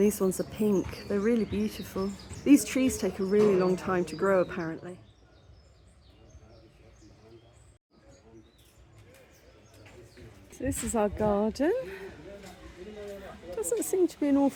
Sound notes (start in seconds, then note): 5.8 birdsong